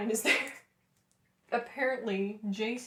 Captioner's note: laughter